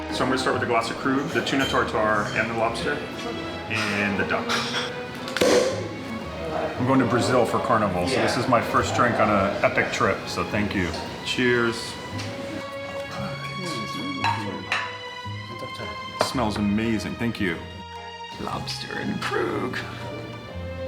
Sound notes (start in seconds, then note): 4.4 cork popping